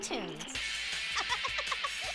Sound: laughs

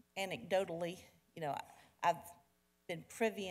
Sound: none

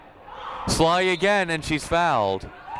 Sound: whistle blowing

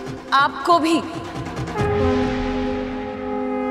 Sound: conch blows

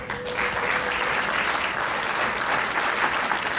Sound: crowd clapping

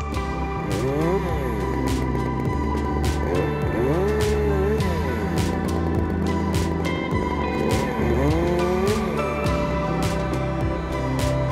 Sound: chainsaw grumbles

